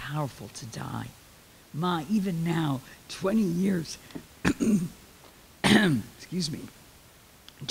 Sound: clears throat

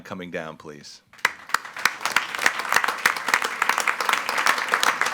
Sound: attendees applauding

